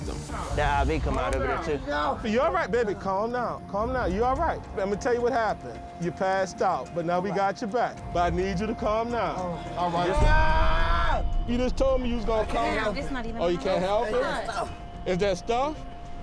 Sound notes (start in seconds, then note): 9.9 screaming